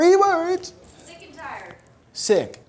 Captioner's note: voiceover